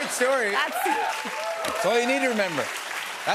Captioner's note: cheers and applause